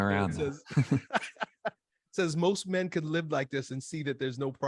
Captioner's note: laughs